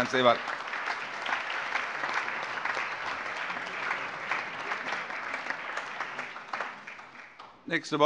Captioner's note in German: Beifall